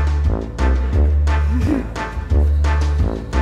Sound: chuckles

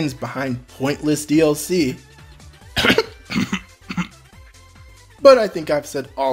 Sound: cough

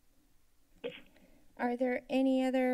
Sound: silence; mic thump

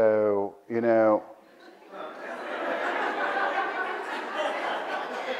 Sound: audience laughs

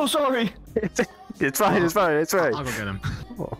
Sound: laughing; laughs

